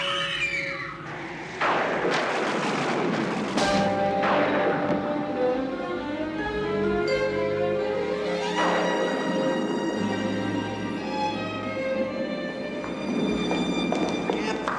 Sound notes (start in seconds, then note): 0.0 children screaming; 1.0 thunder crashing; 4.6 dramatic music